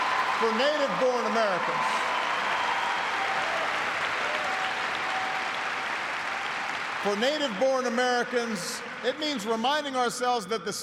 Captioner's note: applause